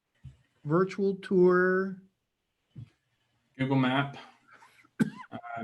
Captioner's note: coughs